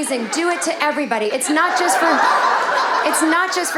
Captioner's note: audience laughing